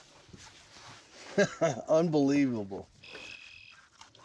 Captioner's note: chuckles